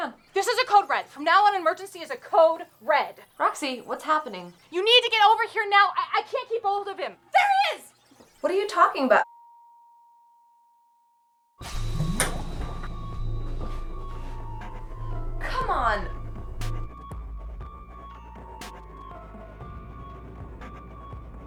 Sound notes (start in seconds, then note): 9.4 eerie silence; 11.6 breaking out of stopped time noise